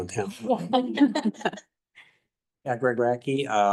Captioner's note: audience laughing